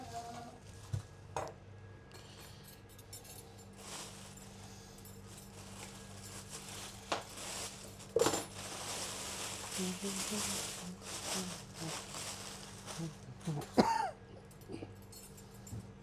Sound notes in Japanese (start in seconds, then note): 12.9 鼻歌